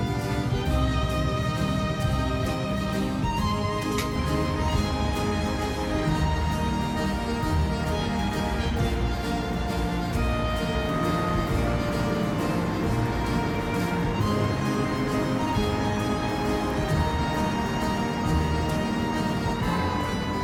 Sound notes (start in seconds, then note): 5.0 laughs